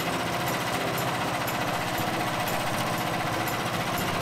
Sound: motor Idles

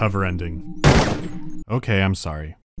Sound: bam

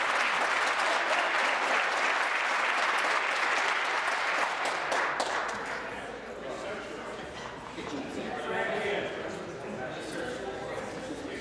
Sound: applause

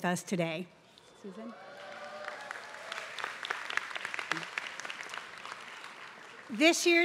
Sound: applause

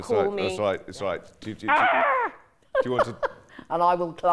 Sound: chuckling

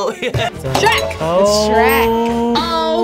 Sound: bell dings

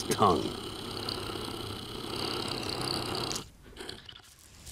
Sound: Grit growling

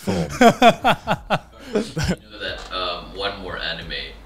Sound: chuckling

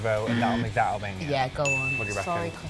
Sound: alarm; bell dings

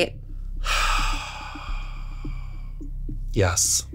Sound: sighs

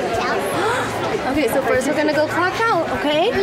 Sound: gasps

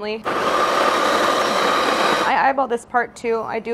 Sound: coffee grinding

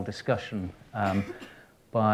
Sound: coughs

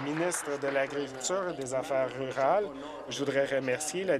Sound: applause

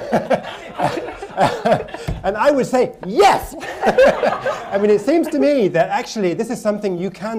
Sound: laughter

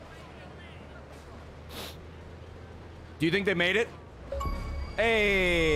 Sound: sniffs

